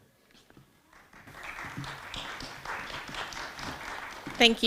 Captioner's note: audience clapping